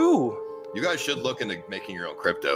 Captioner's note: male Voice